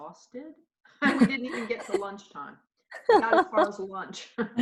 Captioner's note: laughing